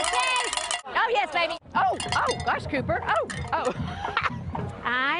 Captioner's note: cowbell ringing